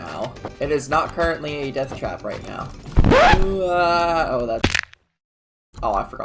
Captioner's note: splat